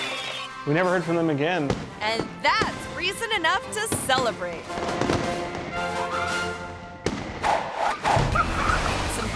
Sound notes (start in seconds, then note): 3.8 fireworks popping; 4.6 bright music; 7.4 air whooshes